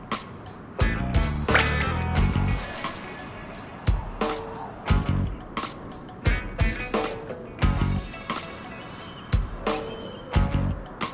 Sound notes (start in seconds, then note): 1.5 high pitched ping